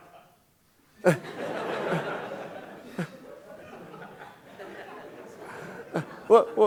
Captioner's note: audience laughing; audience member laughing; Scott surprised chuckle